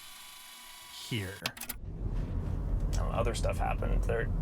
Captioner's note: button clicks